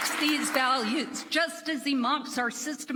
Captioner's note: applause